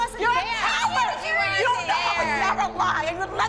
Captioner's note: screaming